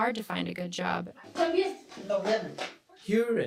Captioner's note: interviewees speaking Spanish